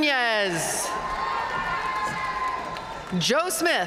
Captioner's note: audience cheering and applauding